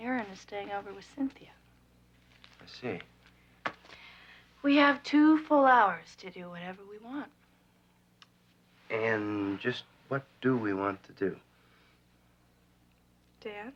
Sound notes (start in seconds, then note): none